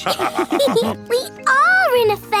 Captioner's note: all laughing